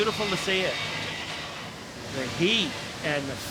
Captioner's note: flames blowing